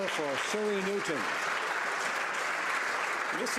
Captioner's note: some Applause